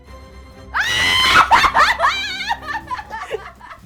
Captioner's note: both laughing